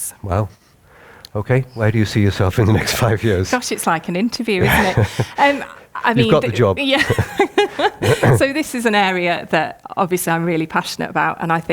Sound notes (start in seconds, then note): 2.4 chuckles; 7.4 laughs